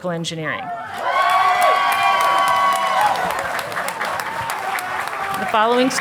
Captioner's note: audience applauding